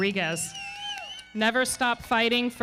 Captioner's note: audience cheering